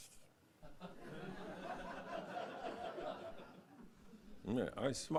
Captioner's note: laugh